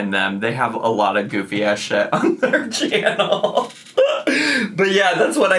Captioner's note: laughs